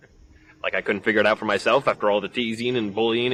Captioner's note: laughs